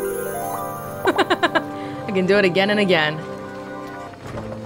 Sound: chuckles

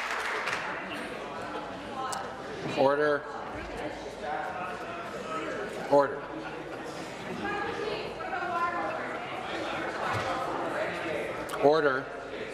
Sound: some Applause

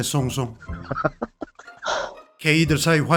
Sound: laughter

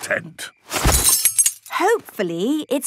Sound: clang-ruffle-thump

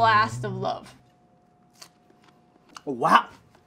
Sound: crunches

